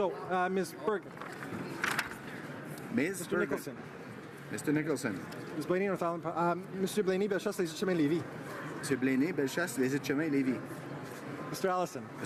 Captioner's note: calling of recorded vote